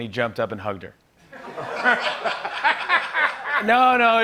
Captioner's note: laughter